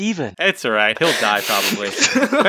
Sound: laughs

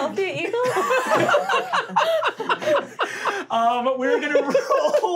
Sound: laughing

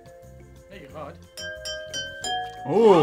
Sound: glasses chiming

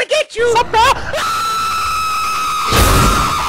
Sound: screaming; ignition

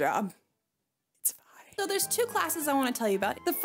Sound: whispering

